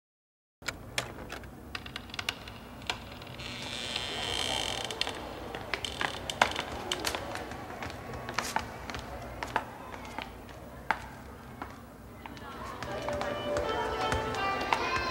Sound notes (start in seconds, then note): 0.7 door rattles; 3.7 door creaks; 10.3 children chattering